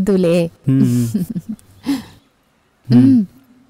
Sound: chuckles

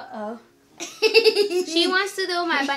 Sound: laughs

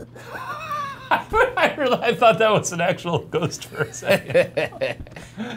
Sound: laughs; laughs sinisterly; laughs

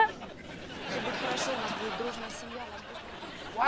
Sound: indistinct chattering

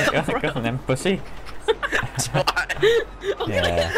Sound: laughter

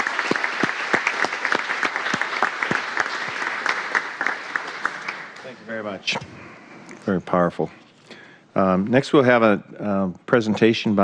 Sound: applause

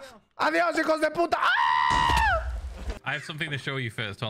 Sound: screams; in English

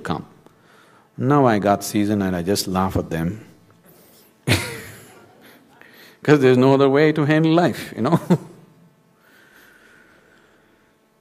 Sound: laughs

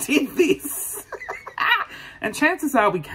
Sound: laughs

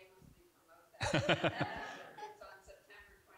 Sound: audience giggling

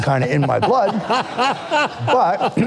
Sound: audience laughing

